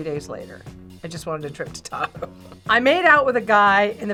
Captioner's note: laughs